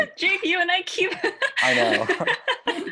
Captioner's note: laugh